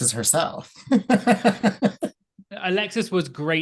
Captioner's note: laughing